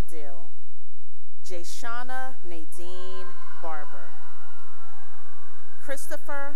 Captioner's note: cheering and applause